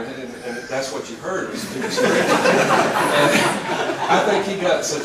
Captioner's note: laugh